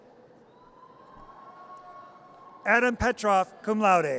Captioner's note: audience cheers